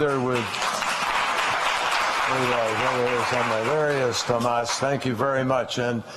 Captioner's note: applause